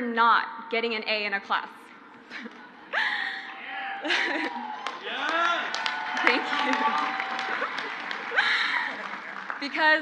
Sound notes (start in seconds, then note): 3.9 crowd laughs; 4.0 she laughs